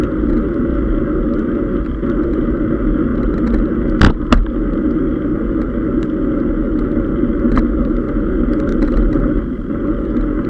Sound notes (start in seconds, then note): 4.4 gear shifting